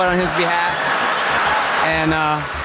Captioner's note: crowd laughing